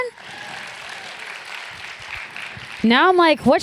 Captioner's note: applause